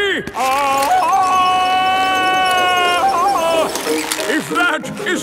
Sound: yelling

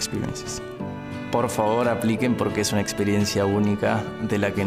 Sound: speaking spanish

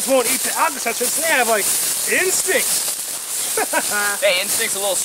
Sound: laughs

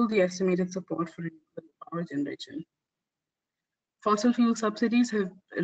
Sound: audio static

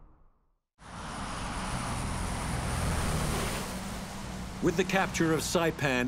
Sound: bomber engines rumbling

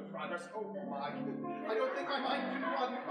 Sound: audience laughing

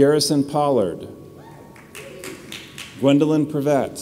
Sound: audience applauds

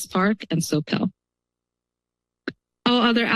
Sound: pause

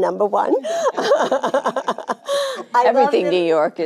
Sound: Jane laughing

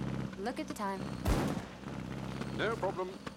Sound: loud backfire

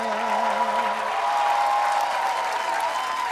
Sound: cheers and applause

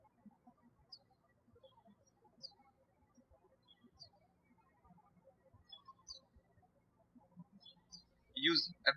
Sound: birds chirping

